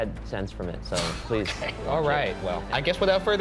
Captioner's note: laughing